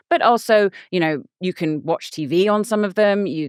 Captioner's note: none